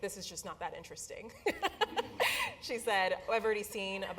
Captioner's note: laugh